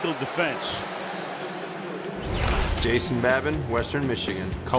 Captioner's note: pa announcement